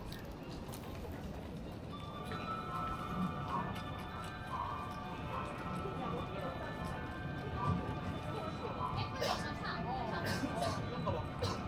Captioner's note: Haruka Express train entering